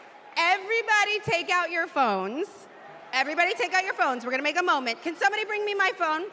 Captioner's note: cheers and applause